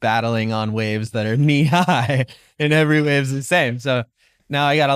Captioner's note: chuckling loudly